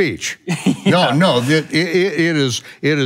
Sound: laughing

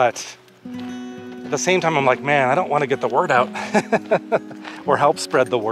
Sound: laughs

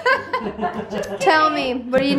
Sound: laughs

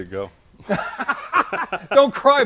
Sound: laughing

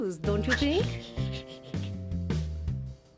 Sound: laughs

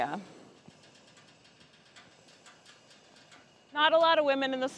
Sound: burner cranking

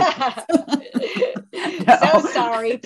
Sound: laughter

